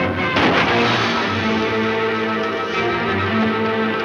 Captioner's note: gunshots